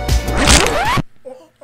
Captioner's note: bone cracking noise